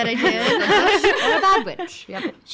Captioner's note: laughing